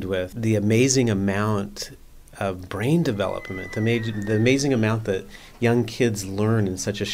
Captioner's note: sound of children playing